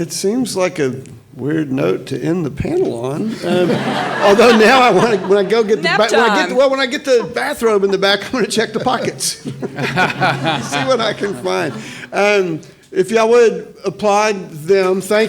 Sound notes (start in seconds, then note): 3.3 audience laughs